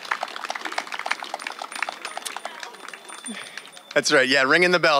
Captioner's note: cheering; bells chiming